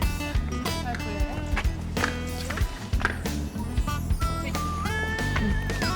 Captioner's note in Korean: 두둥